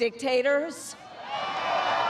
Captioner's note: cheering